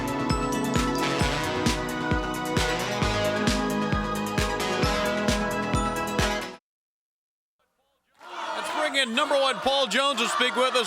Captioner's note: crowd cheering